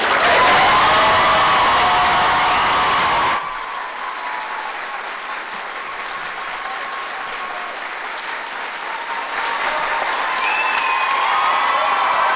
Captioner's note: applause